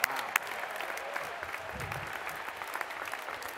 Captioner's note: applause